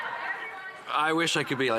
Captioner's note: some Laughter